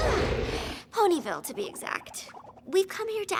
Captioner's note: snorts